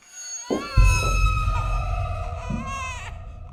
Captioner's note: baby crying